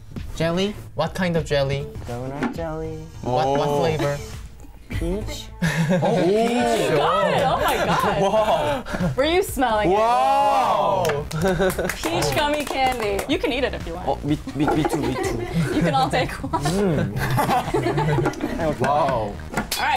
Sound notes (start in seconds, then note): 5.6 band member laughs; 6.7 band member exclaims; 16.4 band member laughs; 17.1 staff laughs